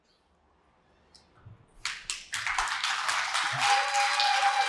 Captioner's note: applause